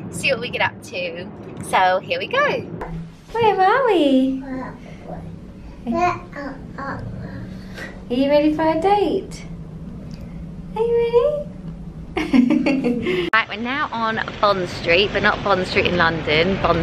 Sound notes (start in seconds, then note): 5.9 coos; 12.2 laughs